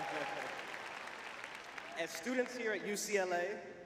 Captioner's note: cheering; applause